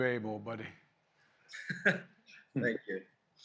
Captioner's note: laughs